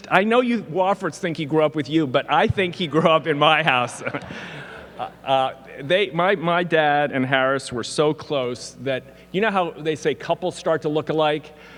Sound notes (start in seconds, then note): 3.7 laughs